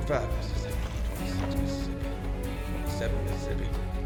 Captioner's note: counting